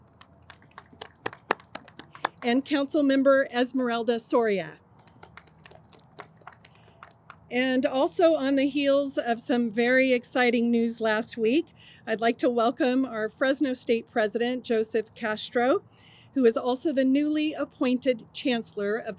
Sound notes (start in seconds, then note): 0.0 audience applauds; 4.9 audience applauds